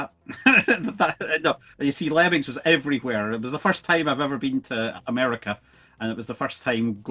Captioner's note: laughs